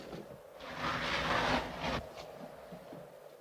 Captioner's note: sliding sound